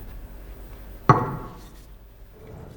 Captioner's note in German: Metallischer Laut